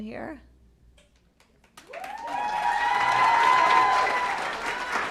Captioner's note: applause